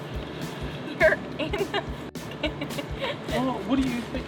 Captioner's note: laughing